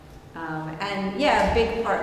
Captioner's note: none